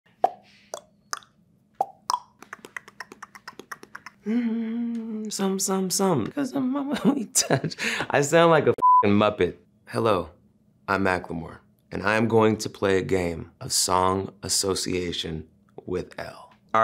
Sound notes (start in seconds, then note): 1.7 mouth popping; 4.2 humming; 8.8 beep